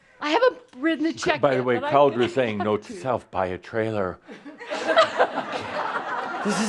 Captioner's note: laughter